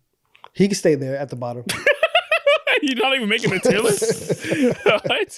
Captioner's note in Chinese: 大笑